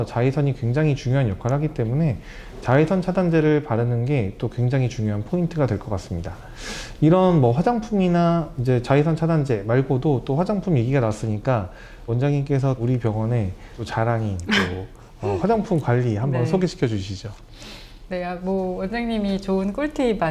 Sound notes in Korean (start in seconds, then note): 14.4 목을 가다듬음